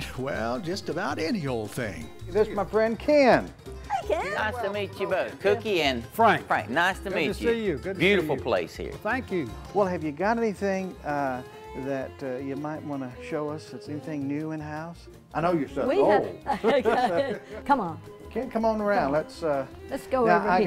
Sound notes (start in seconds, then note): 17.8 laughs